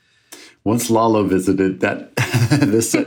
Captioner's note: chuckles